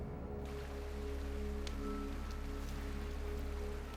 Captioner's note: water lapping